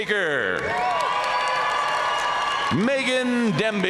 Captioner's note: audience cheering and applauding